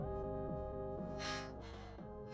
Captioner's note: sighs